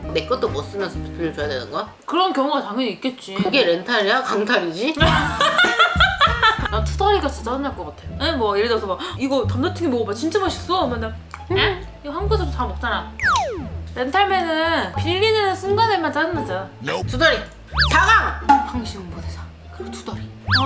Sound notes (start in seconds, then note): 12.9 grouchy